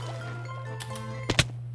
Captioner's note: click ?